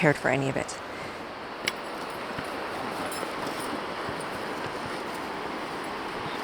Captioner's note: outdoor nature sounds